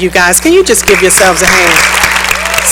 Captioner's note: cheering and applause